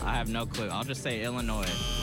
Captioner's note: buzzer